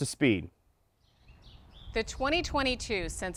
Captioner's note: birds chirping